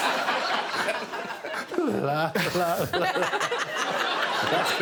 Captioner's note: all laughing